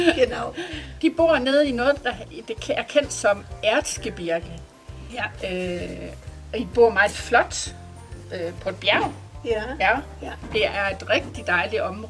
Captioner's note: in Danish